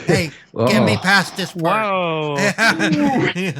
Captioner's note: exclaiming